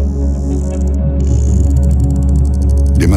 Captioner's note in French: Chant d'un cachalot